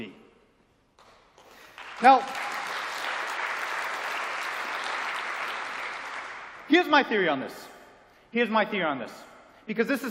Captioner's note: applause